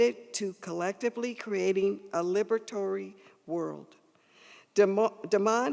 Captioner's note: none